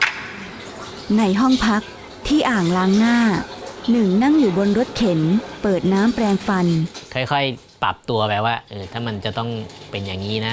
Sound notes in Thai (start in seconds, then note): 0.0 เสียงน้ำก๊อกไหล